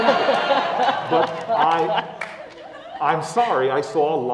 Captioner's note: laugh